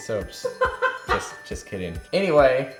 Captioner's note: laughing